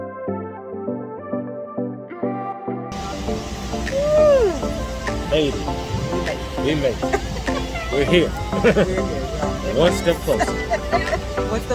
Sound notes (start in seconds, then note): 0.1 upbeat music; 3.9 woman yawning; 6.7 couple laughing